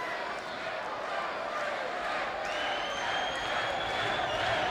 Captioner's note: spectators cheering